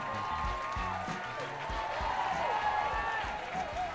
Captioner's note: audience cheers